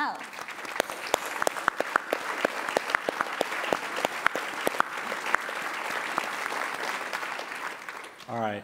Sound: applause

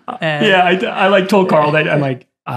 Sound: laughs

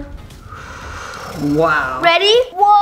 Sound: fire breathing sounds

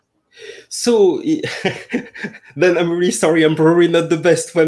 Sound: laughs

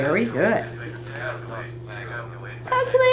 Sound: calculator Sounds

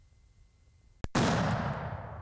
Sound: gunshot

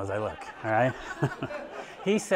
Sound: audience laughing

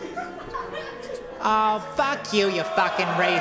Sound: audience laugh

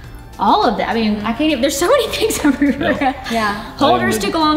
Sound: laughs

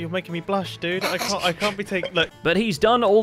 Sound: snickers

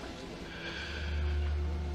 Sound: Frank sighs

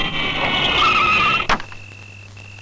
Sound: brakes squeal

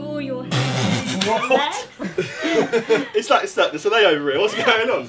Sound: Josh blowing a raspberry

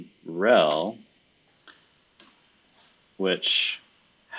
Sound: computer keyboard clicking

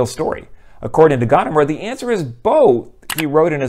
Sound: mouse click

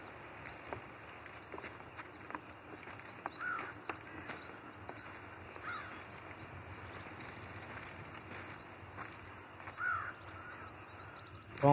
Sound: footsteps and bird calls

